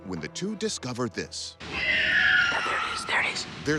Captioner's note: screeching